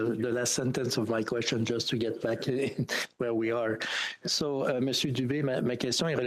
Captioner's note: speaking French